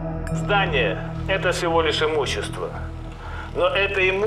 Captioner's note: speaks russian